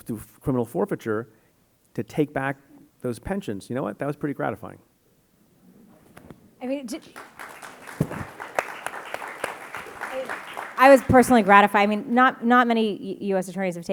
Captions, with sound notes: through criminal forfeiture to take back those pensions. You know what, that was pretty gratifying. (audience applauding) - I was personally gratified, I mean, not many US attorneys